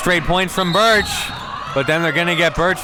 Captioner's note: whistle blows